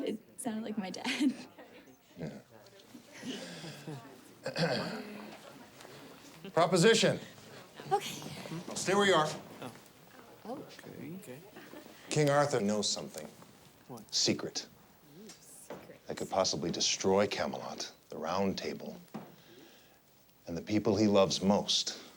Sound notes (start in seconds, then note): 4.4 Stephen clears throat